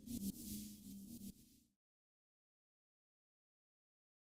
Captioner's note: sounds end